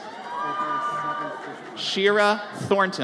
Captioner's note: audience cheers